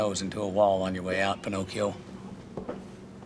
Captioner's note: none